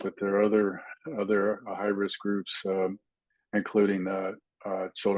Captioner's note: indistinct chatting